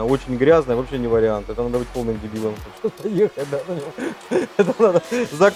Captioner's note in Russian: смеётся